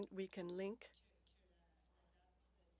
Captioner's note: speaking French